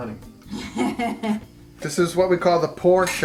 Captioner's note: laughter